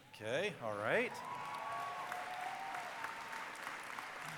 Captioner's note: cheering and applause